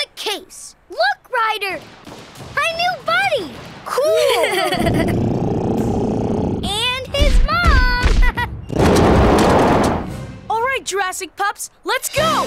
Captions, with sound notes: Look, Ryder. My new buddy. Cool. [laughing] And his mom. [chuckles] [roaring] All right, Jurassic pups, let's go.